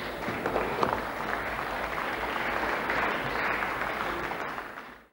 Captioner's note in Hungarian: Taps a Fidesz padsoraiban. - Szórványos taps az MDF padsoraiban